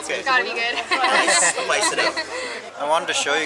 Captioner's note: laughter